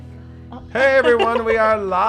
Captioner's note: giggles